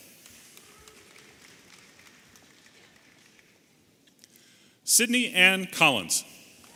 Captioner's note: audience applauding and cheering